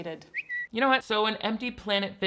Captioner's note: phone whistles